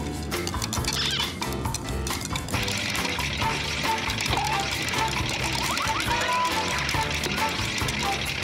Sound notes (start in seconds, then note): 0.8 squeak; 3.9 boink